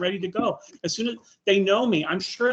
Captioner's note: chuckling